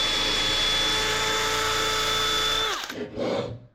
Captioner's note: drill whirring